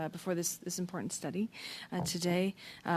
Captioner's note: speaking French